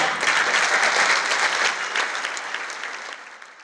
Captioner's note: applause